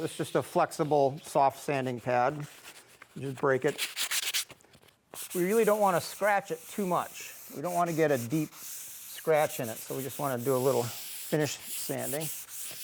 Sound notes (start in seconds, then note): 4.3 pad scratching; 11.6 pad scratching